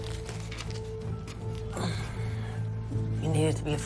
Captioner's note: effort grunting